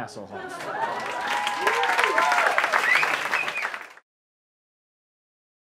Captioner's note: applause